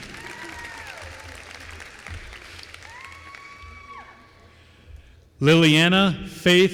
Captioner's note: applause